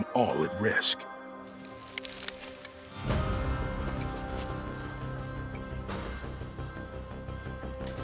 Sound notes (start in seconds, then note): 1.4 grass crunches